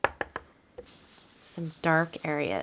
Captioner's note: brush scrubbing